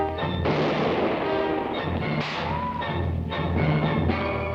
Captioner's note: gun firing